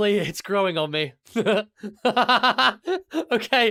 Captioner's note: two chuckles